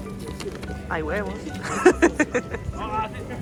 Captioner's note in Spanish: risas